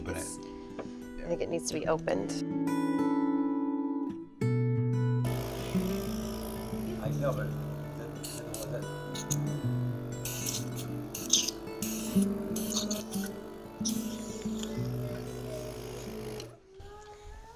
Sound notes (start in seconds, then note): 5.6 machine humming; 10.4 air escaping